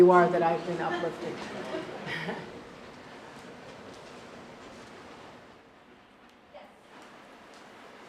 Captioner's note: laugh